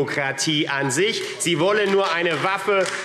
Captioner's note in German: Beifall AfD